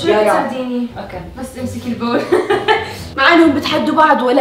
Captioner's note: laughs